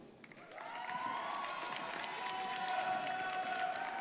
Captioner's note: crowd applauding